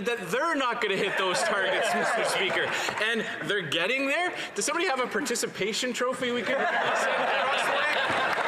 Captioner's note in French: voix de l'interprète